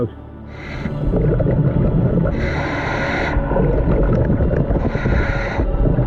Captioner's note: underwater breathing